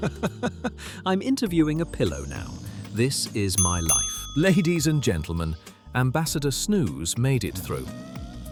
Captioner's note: laughing; laughing